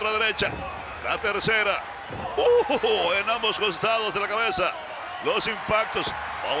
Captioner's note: laugh